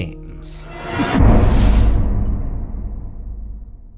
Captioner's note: impact